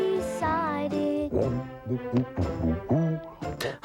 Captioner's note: elliott humming